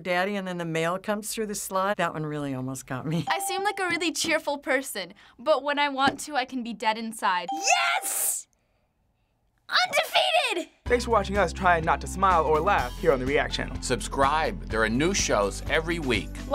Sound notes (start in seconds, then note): none